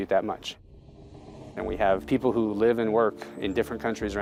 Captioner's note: swoosh